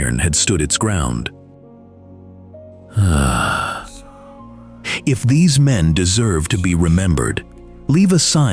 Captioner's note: sigh